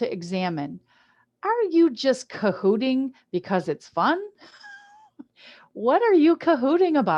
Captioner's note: chuckles